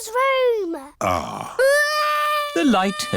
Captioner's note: crying